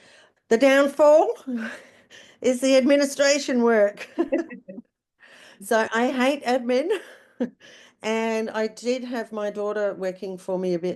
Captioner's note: haha